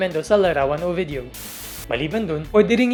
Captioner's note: static sound